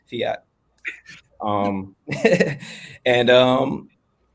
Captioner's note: laughs